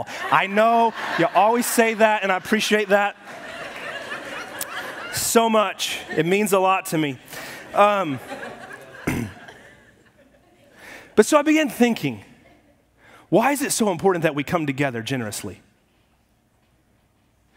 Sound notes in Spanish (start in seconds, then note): 0.4 la congregación se ríe; 3.9 la congregación se ríe; 7.4 la congregación se ríe; 9.0 despeja la garganta